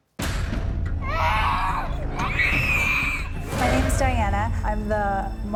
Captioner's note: child screaming